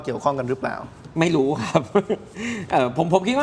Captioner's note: laughter